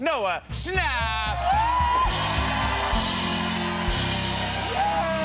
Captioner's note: cheers and applause